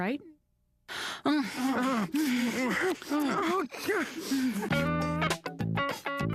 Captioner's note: both moaning passionately